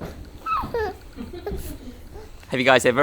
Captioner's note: baby laughing